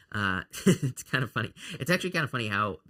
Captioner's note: chuckles